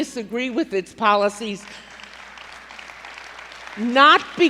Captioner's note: applause